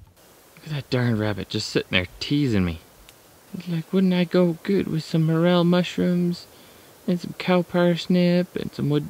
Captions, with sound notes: Look at that darn rabbit just sitting there teasing me! Like, (sing song voice) wouldn't I go good with some morel mushrooms, and some cow parsnips and woodobo.